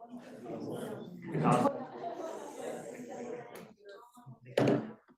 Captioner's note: students chattering